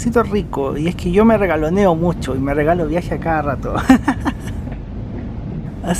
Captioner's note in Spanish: risas